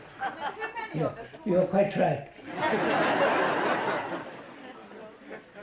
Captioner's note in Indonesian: Tertawa